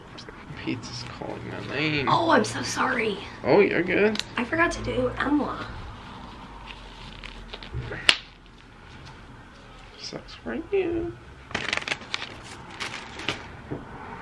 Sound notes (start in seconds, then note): 8.0 glove snaps; 11.5 plastic crinkling